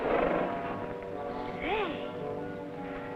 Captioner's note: horse nickering